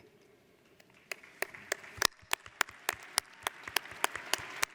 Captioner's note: audience applauds